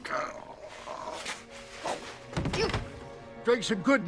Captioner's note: fleshy thudding; grunting